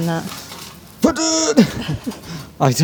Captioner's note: grunting